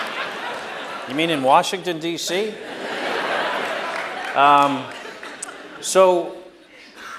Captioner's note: laughter; laughter